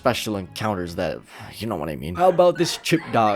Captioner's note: sighs